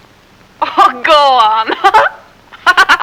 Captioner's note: laughs